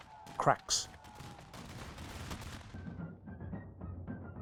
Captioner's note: gunfire